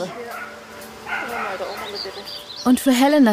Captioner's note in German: Bellen, Gesprächsfetzen